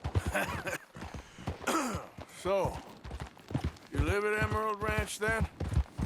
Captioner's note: laughs and coughs